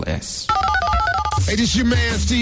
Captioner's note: phone ringing